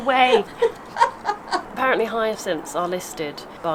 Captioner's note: laughs